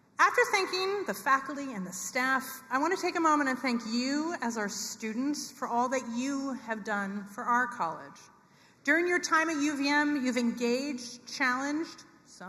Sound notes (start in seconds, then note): none